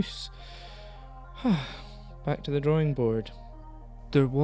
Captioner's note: sighs